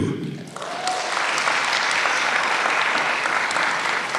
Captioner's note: applause